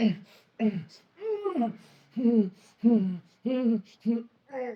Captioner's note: Solent groaning